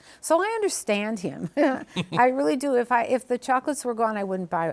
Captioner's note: both chuckle